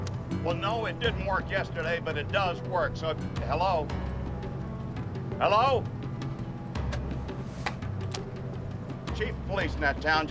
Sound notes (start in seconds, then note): 2.0 brakes squeak